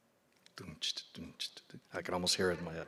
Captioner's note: mimicing drum sounds